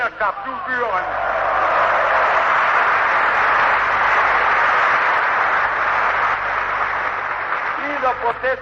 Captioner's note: applause